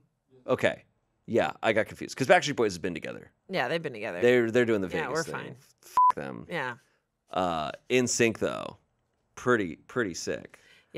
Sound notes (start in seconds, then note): 5.9 beep